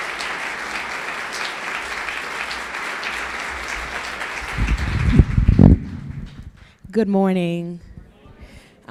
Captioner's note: applause